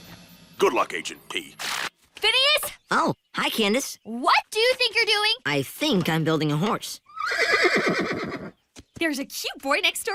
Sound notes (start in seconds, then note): 7.0 neighs